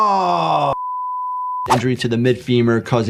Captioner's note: test screen beeping; screen clicking